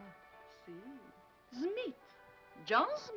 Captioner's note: speaking foreign language